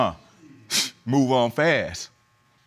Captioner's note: scoffs